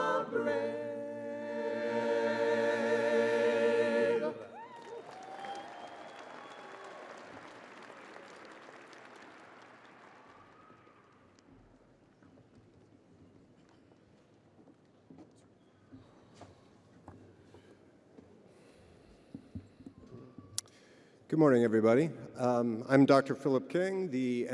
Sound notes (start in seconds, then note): 7.7 audience cheering; 11.4 audience applauding